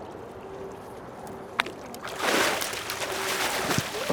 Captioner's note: fish splashing